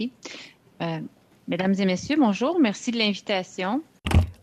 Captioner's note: speaking French